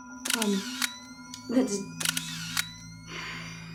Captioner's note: cameras clicking